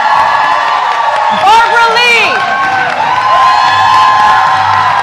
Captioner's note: cheers and applause